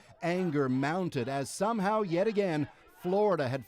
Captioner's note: chanting